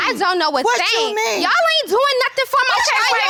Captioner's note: shouting